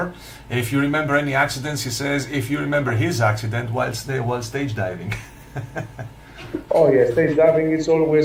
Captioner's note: haha!